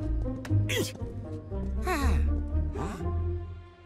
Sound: slapping on back; grunts

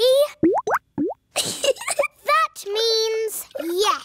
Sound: bubbling; giggles

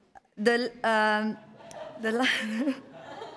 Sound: laughing

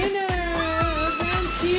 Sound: screaming

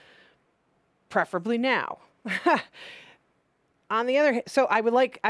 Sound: laughing

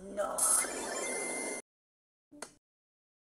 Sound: portal opens

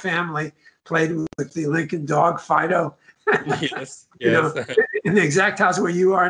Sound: laugh

